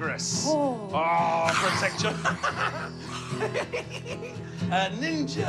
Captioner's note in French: grogner